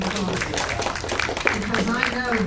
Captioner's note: applause